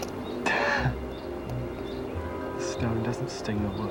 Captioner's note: chuckles